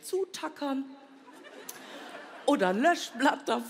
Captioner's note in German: Vereinzeltes Lachen